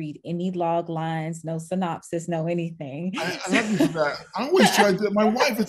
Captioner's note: laughing